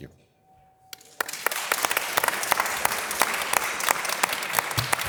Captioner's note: audience applause